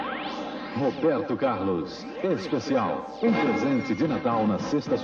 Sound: male announcer speaking Portuguese

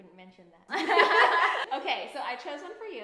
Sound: laughs

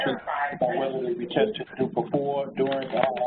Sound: phone chatter interrupts

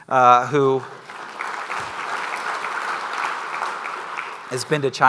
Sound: crowd applauding

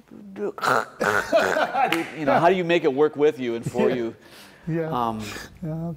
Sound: laughter

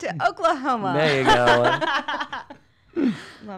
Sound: laugh

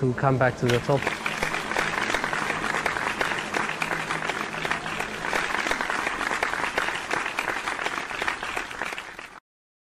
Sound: crowd clapping

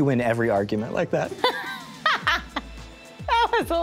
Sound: laughs

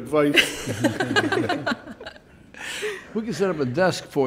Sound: everyone laughing loudly

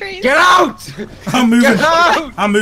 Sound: angrily yells

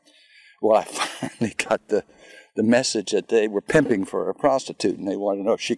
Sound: laughing

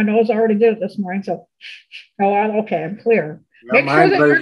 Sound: sniffles

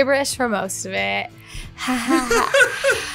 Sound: laughs

